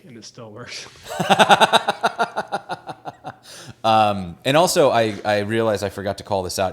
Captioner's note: laughs